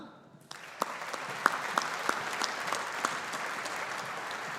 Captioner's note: audience applauding